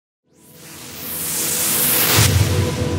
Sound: whooshing

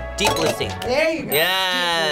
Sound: bell dings

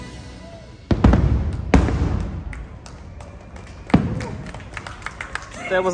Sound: audience applauding

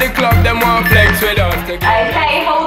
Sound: timer beeping

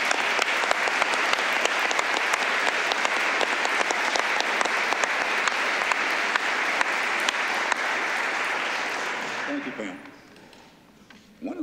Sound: applause

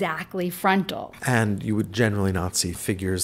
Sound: voiceover

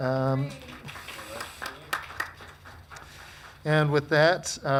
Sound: crowd clapping

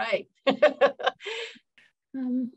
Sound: laughing

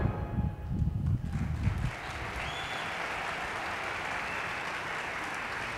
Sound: audience applauding

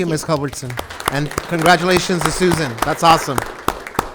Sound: group clapping

